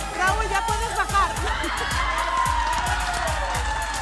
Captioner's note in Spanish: Aplausos